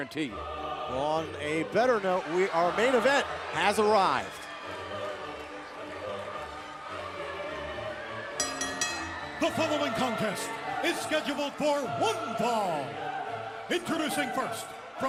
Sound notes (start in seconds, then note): 8.4 bell ringing